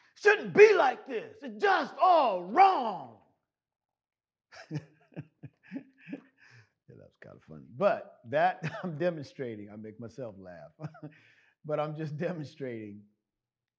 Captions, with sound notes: "It shouldn't be like this it's just all wrong." (laughs) That was kind of funny, but that I'm demonstrating I make myself laugh, but I'm just demonstrating